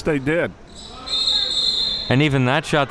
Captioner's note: whistle blowing